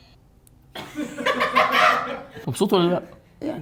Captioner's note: laughter